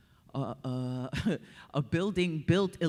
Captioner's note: chuckles